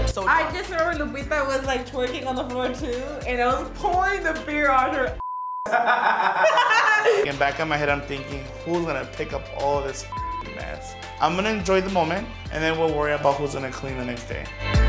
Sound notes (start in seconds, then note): 5.2 beep; 5.7 laughing; 10.1 beep; 14.6 upbeat techno music